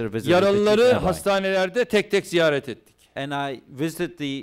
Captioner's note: non-english speech